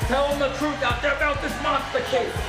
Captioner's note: crowd cheering